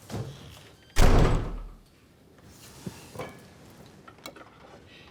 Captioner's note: door slamming